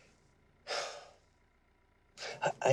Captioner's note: sighs